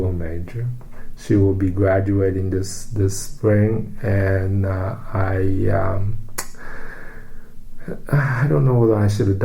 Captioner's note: sighs